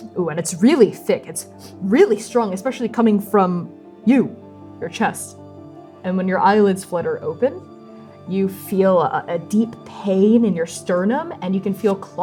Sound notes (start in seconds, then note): 0.2 disgusted sniffing; 1.7 sniffing